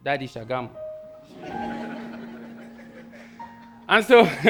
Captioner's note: audience laughing